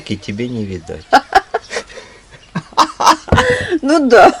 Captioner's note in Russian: смеются оба